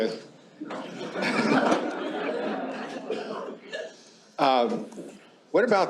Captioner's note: laughter